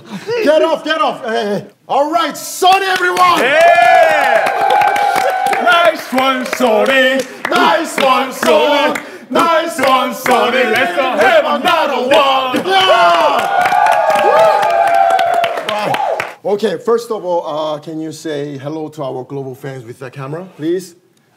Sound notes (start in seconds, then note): 2.9 sound of clapping; 5.6 Son's Tottenham chant